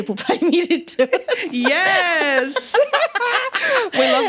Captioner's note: laughter